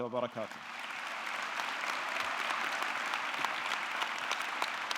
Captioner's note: audience clapping